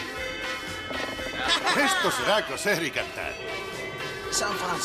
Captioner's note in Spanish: ríen